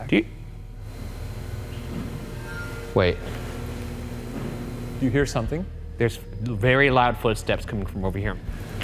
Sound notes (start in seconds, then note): 1.3 suspenseful music; 3.6 ship thuds